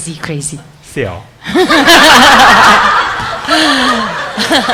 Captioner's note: audience laughs